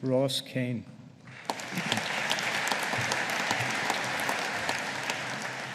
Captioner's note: audience applauding